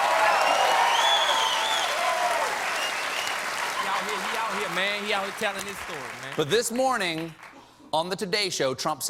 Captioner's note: cheers and applause